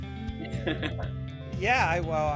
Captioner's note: laughing softly